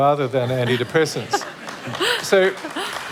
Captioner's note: applause And Cheers